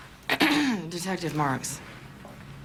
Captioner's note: clears throat